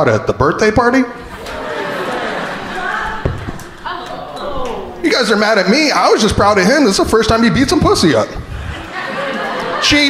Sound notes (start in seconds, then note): 1.2 crowd laughing